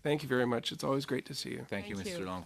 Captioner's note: speaking in French